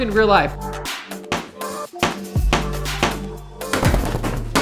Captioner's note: thuds